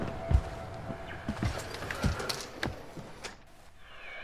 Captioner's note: radio whirring